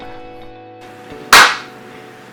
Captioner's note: clap!